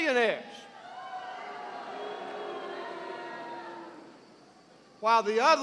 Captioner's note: boos